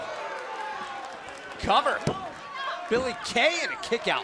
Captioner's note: crowd cheering